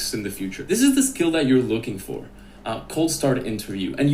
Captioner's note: none